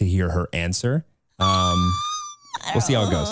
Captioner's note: squealing